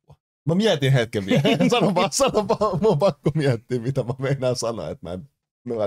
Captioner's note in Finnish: Nauraa